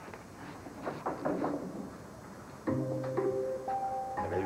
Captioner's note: toc! Toc! Toc!